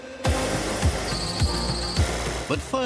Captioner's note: synch sound